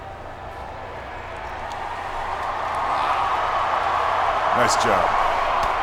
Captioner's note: audience cheers